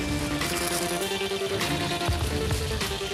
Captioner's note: sizzling